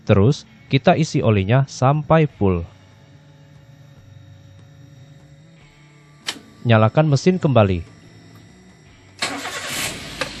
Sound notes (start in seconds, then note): 6.1 turns on the engine again